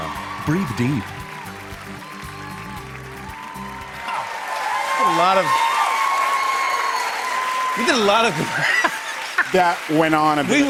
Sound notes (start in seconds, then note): 5.8 cheers and applause; 8.4 laughs